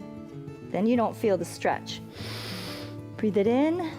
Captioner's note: inhales